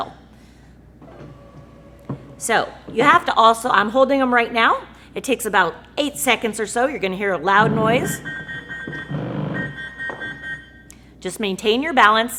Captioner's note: sound of legs retracting; beeping sounds with vibration noise